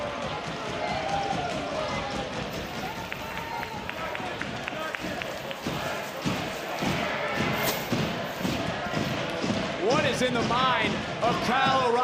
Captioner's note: audience cheering